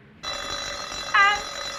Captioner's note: bell ringing